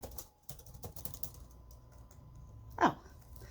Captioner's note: computer typing